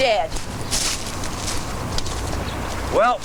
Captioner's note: footsteps crunching